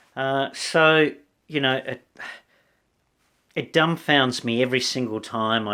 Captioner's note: sighs